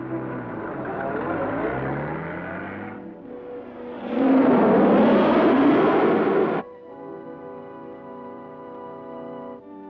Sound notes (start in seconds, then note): 0.0 car rumbling; 4.2 projectile blasting; 7.2 tense music